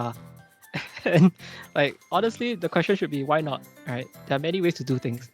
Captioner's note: chuckles